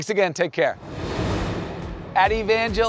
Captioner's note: air whooshing